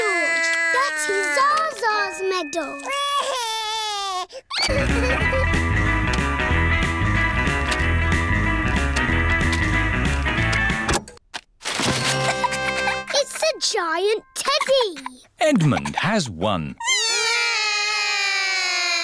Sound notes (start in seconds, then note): 0.0 cries; 3.2 cries; 10.7 music stops; 17.2 all cry